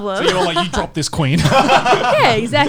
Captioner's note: laughs